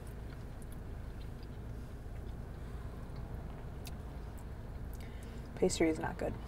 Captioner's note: crunching